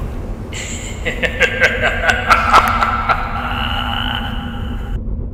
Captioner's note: evil Laugh